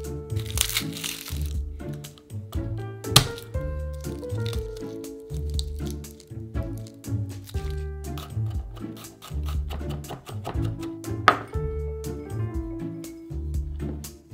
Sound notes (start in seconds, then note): 0.3 garlic paper rustling; 3.1 knife smash